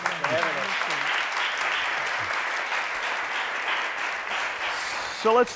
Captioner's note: applause